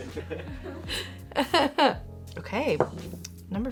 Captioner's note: laughs